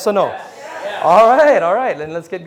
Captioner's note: crowd